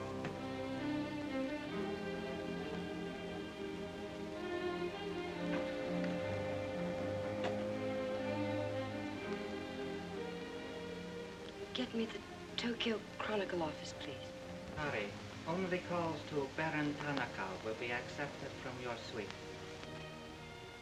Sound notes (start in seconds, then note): 0.1 soft suspenseful music; 11.8 whispers; 20.6 soft somber music